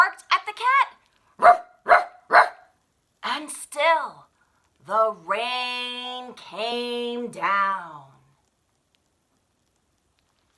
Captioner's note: ruff, ruff, ruff!